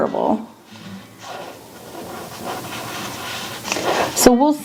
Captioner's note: marker scratching continues